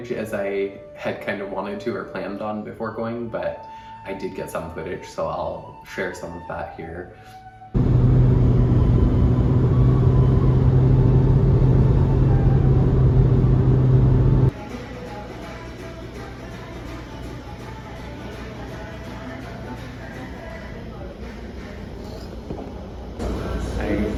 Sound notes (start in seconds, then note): 7.7 car Engine Sound; 14.4 upbeat Music Playing